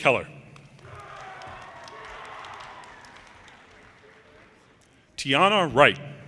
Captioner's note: audience cheers and applause